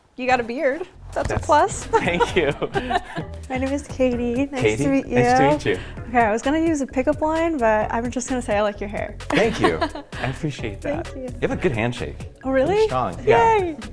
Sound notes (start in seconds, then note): 1.9 laughing